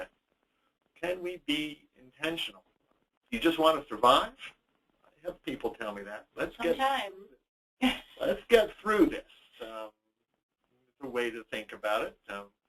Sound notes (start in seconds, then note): 7.8 laughs